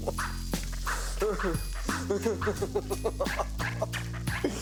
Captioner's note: grill sizzling; Ben crying and grunting